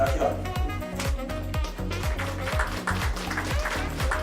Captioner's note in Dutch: applaus